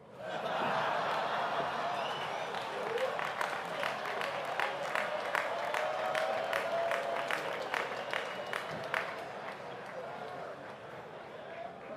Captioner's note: laughter and applause